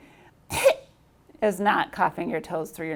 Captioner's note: speaker coughing